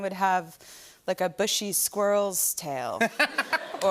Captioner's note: laughter